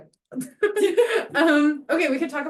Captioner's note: laughter